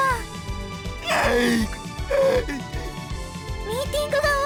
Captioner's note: blubbering